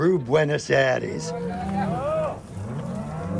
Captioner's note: cows mooing